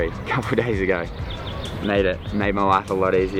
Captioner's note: laughs